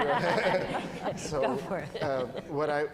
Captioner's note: laughter